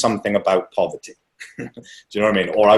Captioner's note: laughing